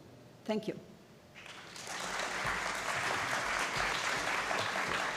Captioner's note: applause